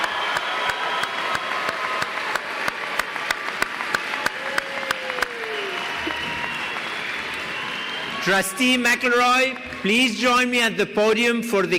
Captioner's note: applause